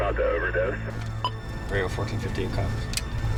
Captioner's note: response over radio; police sirens beep